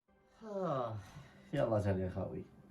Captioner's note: sigh